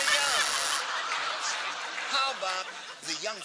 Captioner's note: buzzer